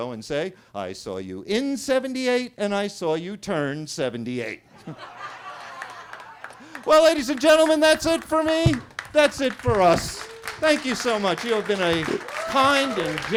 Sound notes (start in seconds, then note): 4.7 attendees laughing; 9.9 attendees clapping; 12.3 attendees cheering